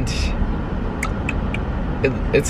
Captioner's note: clicking tongue